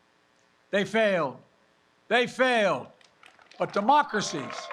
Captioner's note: applause